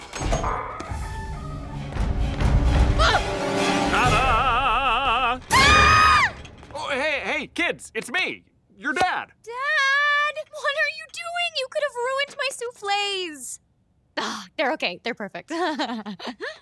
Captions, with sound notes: [creaking] Ta-da. [screaming] Hey, hey, kids, it's me, your dad. Dad, what are you doing? You could have ruined my souffles. They're okay. They're perfect. [giggling]